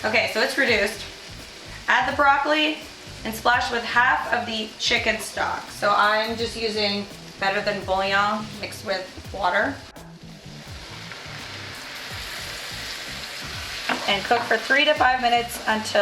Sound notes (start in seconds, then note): 10.6 pan sizzling